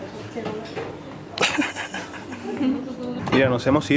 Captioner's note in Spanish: se ríe